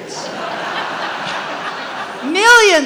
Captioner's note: audience laughs